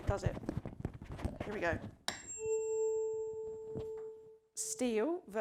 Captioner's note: tuning fork vibrates